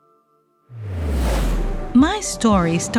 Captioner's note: whoosing sound